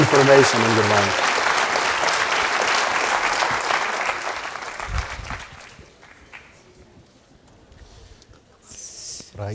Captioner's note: applause